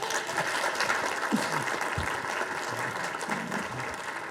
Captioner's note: audience applauding